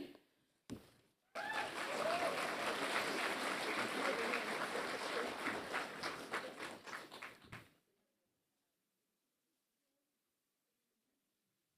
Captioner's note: applause